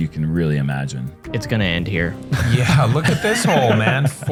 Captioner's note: laughter